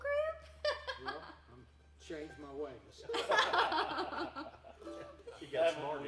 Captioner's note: laughing; everyone laughing